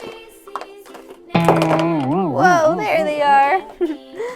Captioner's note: loud twang; laughs